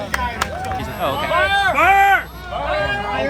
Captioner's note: crowd